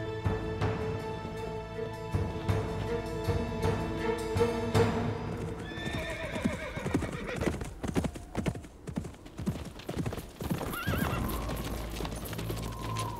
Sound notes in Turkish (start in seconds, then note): 5.6 At kişniyor